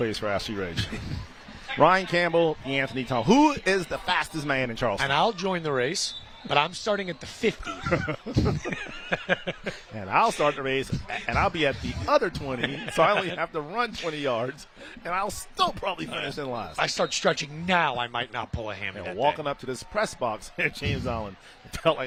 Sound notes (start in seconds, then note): 14.2 laughter